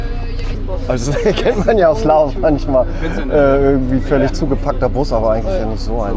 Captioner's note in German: gelächter